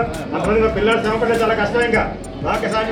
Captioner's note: chatter in Telugu